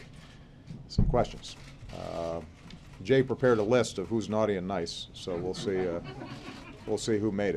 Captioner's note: laughter